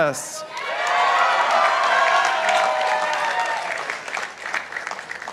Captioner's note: participants applauding